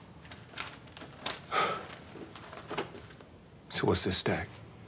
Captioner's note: sighs